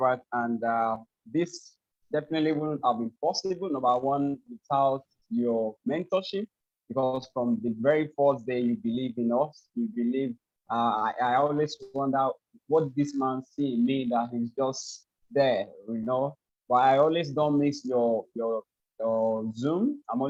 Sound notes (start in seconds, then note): none